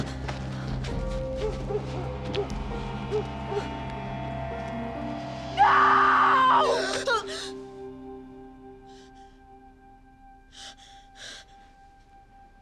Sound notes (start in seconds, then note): 6.6 gasps